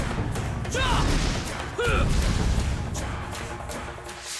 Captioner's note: grunting